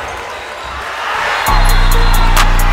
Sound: crowd cheering; trap music

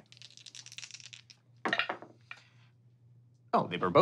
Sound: rolling dice

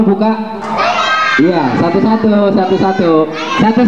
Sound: clap

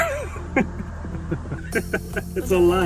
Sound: laughs

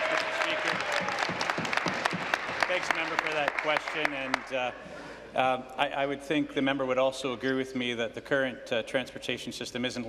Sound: applause

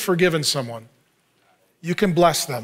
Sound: congregant speaking faintly

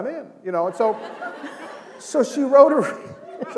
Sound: laughter

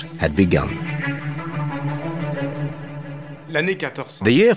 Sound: speaking in foreign language

